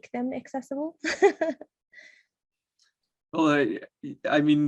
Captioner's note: laughs